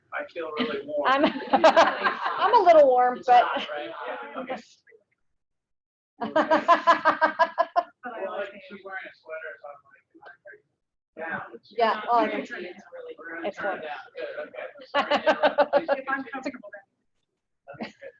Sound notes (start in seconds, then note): 1.2 laughing; 3.8 speaking away from mike; 6.3 laughing; 10.6 speaking away from mike; 14.9 laughing